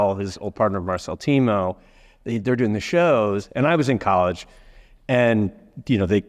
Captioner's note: none